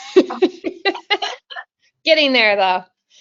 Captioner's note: both laughing